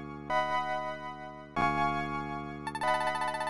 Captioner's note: game audio